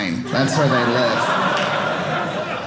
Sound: audience laughing

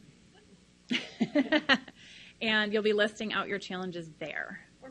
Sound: laughs loudly

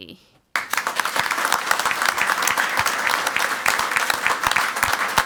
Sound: crowd clapping

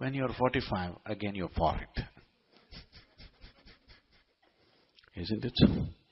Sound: laughs

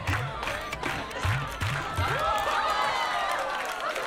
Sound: cheers

